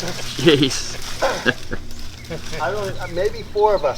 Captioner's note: indistinct chatter; laughter